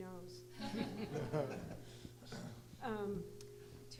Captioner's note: laughter